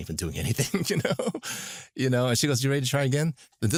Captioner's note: laughs